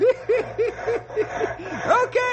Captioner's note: laughing